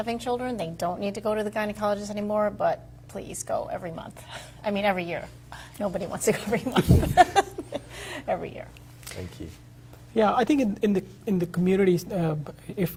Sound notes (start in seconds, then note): 6.7 laughs